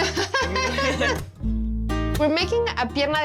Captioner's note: laughs